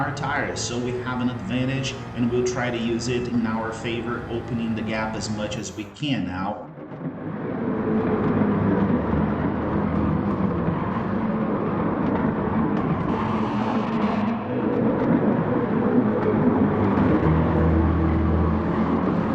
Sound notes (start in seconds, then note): 7.9 engines revving, cars noises